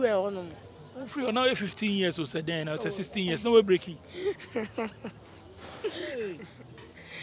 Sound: laughs

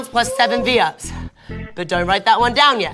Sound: wooing

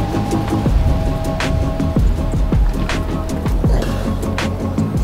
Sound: wind gusts

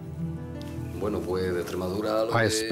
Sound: speaking Spanish

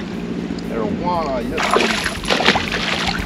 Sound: fish splashing

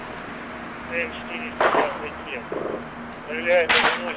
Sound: radio exchange

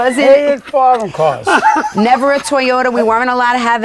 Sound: laughing

